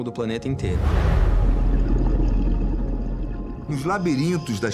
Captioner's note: underwater sounds